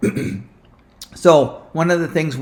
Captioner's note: clears throat